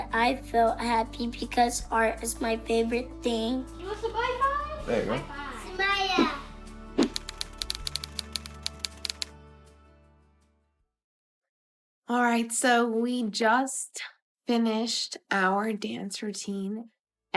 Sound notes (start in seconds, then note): 7.0 typewriter clacking